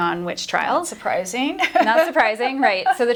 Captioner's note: laughs